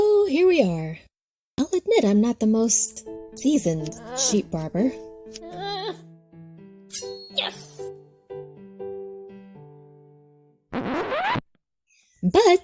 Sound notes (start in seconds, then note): 5.2 Koha uttering nervously; 5.2 calm piano music; 8.0 scissors slashing; 10.7 record scratching